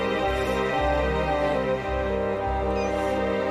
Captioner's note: crying